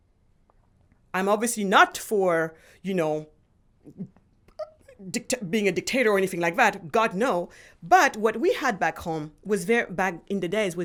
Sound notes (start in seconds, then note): none